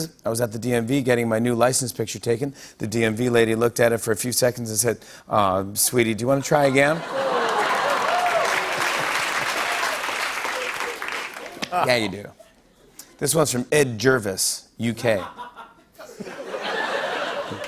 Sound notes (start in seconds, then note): 6.6 laughter, applause; 15.1 laughter; 15.2 laughs